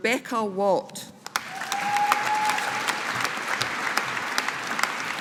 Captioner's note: audience applauding